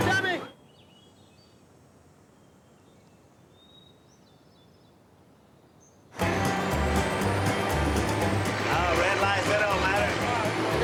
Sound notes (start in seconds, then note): 2.4 birds whistling; 6.2 upbeat music